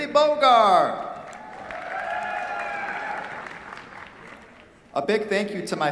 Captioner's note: cheers, applause